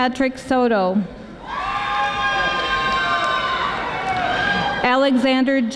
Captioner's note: audience applauding